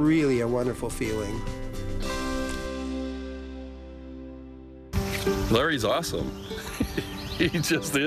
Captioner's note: laughs